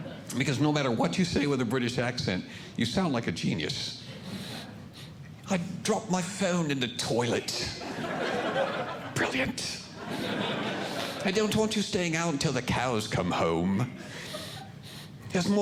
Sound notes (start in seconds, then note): 4.9 with British Accent; 7.5 audience Laughing